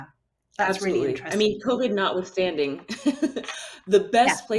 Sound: giggles

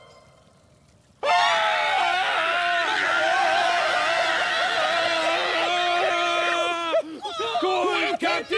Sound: screaming!

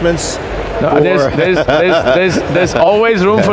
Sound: laughter

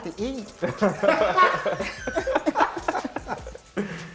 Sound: laughter

